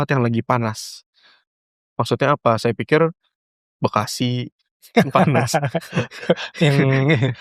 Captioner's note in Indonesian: tertawa